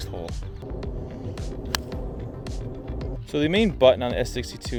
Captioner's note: man hits golf ball